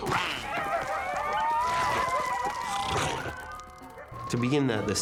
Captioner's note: coyotes barking